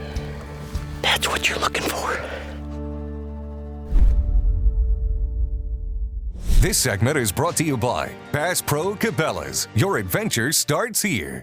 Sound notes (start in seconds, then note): 3.9 logo thuds